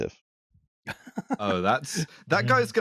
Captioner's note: laughs